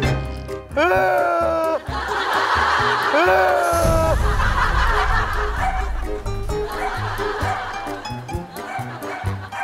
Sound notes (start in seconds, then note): 0.7 crying